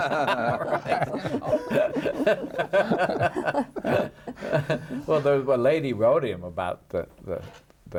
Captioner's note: laughing